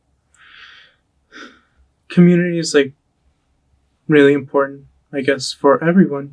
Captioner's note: breathes deeply